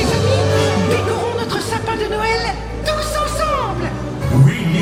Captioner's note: Mickey speaking in French